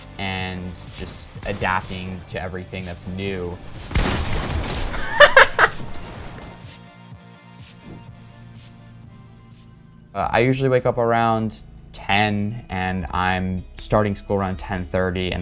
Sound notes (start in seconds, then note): 3.5 gun firing; 4.9 chuckles